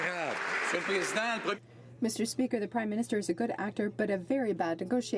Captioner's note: some Applause